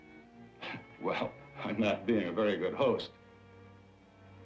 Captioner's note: laughs